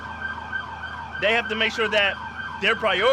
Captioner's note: siren wails